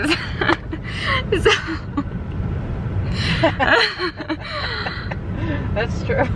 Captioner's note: laughing